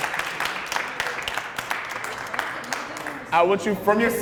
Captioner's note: applause